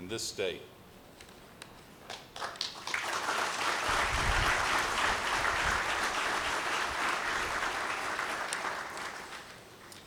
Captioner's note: applause